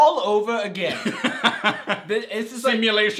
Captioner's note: laughs